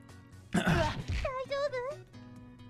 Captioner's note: clears throat